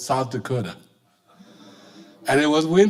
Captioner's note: audience laughing